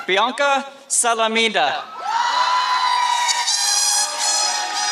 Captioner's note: applause